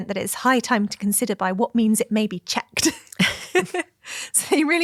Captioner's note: laughs